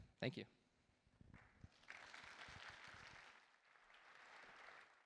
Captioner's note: applause